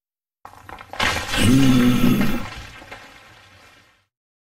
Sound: crashing and moaning

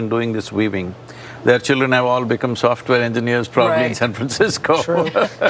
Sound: laughs

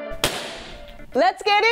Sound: balloon pops

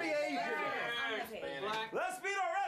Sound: audience shouts answers

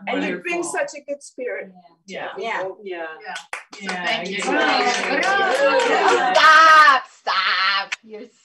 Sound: appluase

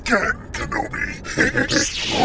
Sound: heroic laugh

